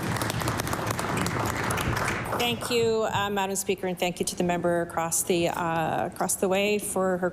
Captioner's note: applause